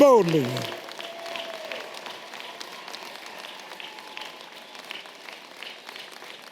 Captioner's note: audience clapping and cheering